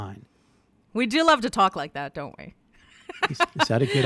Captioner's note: laughs